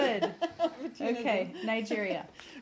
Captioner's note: laughter